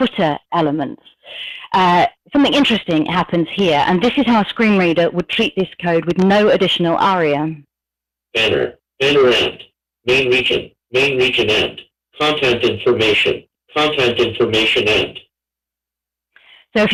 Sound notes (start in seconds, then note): 7.6 computer talking